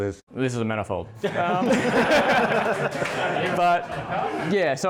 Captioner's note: laughing